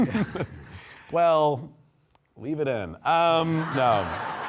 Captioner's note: audience laughing